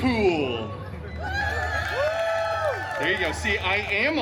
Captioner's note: guests cheering and applauding